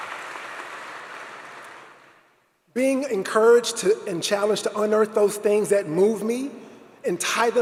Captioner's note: applause